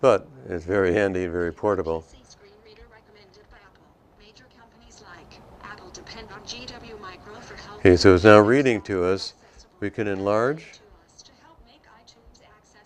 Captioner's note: device speaking